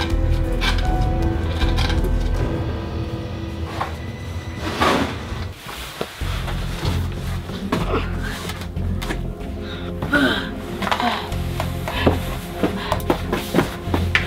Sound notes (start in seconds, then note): 4.2 shuffling and banging; 10.0 grunts